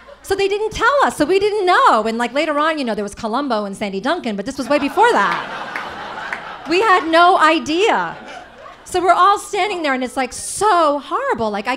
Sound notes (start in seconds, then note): 4.6 audience laughing